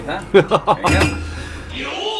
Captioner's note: laughs